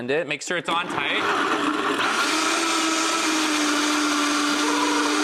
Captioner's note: blender mixing